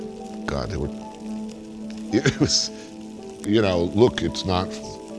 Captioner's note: stammers and laughs